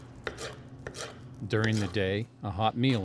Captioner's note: knife slicing